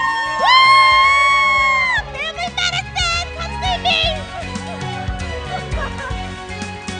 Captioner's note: cheering